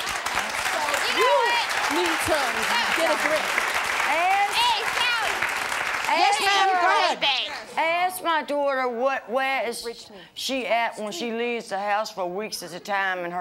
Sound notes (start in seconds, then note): 0.0 audience applause; 4.4 audience yelling